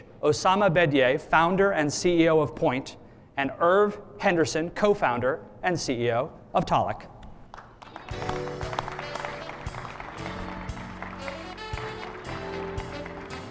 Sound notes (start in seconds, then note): 7.4 audience clapping; 11.0 jazzy music